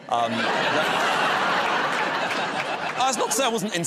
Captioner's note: laughter